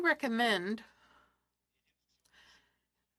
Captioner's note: speaking French